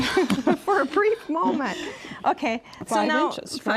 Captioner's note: both laugh